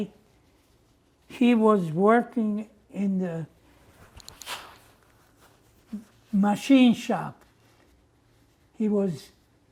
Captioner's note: wiping nose